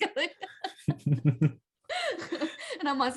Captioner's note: laughs